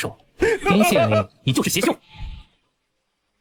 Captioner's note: angry grumbling